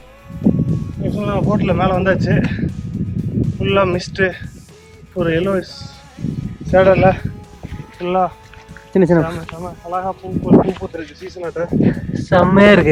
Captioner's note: gasping